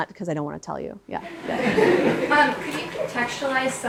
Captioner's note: audience laughs